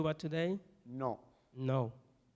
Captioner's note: speaking in Spanish. Translating into English